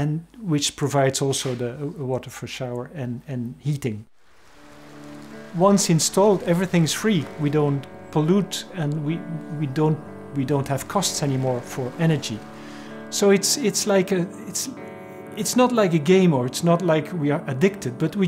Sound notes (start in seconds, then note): 4.6 carefree music; 4.6 water babbling